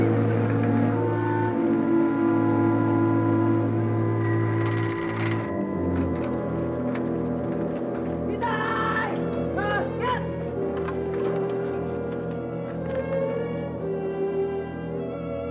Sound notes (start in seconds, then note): 8.7 soldier yells in Japanese; 12.3 deep somber music